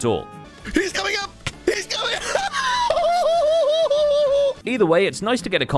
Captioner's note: hooting laugh